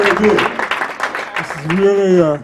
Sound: applause

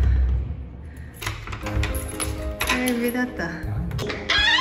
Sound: tears

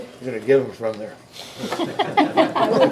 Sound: members laughing

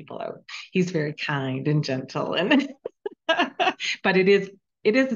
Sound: chuckling

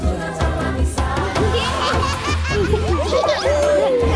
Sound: all laughing

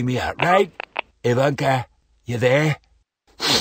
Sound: click; sniff

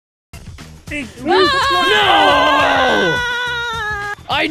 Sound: distressed screaming

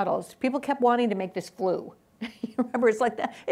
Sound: laughs

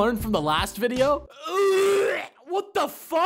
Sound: gagging

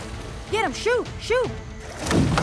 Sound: gunshot

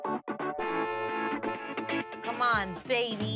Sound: car horn honking

